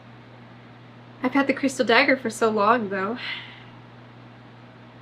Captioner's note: sighs